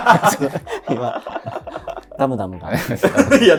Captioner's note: laughing